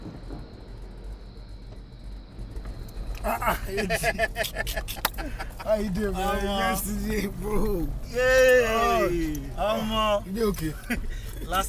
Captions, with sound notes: - Ah, ah AG! (both laugh) - How you doing bro? - Omo. - Yeah, Omo. - You okay?